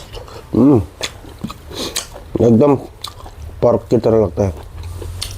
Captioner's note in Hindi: नाक से की जाने वाली आवाज़